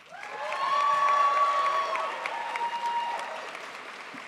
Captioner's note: crowd applauds